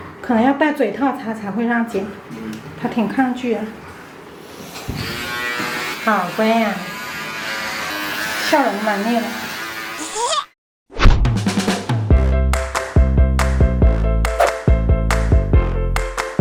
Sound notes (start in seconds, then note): 11.3 shaving